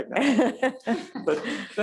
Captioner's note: laughs